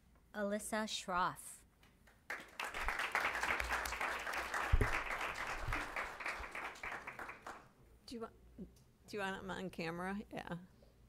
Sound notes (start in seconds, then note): 2.0 applause